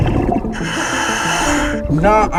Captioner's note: oxygen tank hissing; oxygen bubbling in water